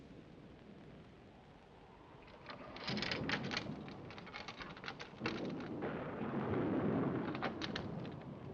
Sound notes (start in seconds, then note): 2.4 chain clanking